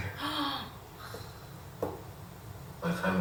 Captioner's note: sigh